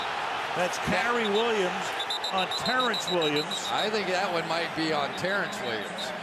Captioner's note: crowd cheering